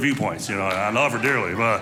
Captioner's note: audience laughing